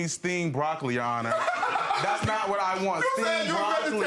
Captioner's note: laughing